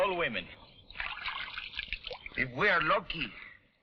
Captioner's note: water splashing